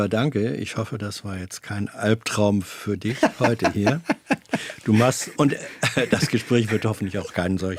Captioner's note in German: gelächter